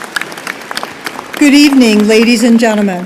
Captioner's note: applause